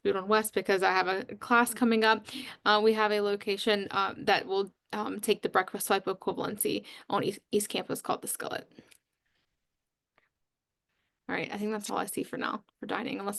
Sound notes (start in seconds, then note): 9.1 pause